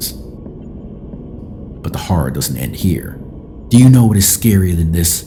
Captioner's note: in an eerie voice